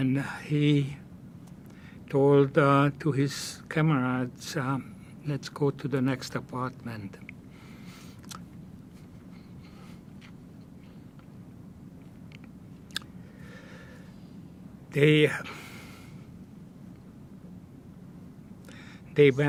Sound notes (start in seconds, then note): 7.9 pauses 11 seconds